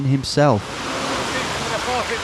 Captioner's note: water sloshing